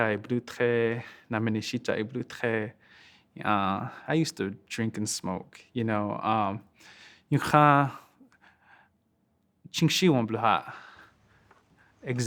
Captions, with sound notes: I used to drink and smoke, you know. (speaking Lakota)